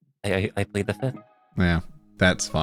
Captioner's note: none